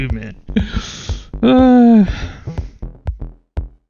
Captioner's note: laughs; moans